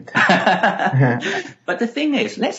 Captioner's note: laughing